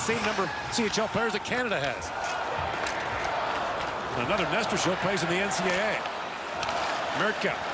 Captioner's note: cheering